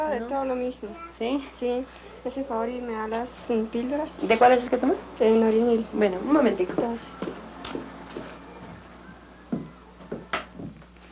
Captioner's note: women conversing in Colombian Spanish